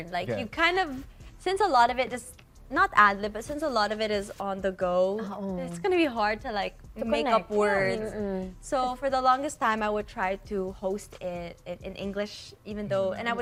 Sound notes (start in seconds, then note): none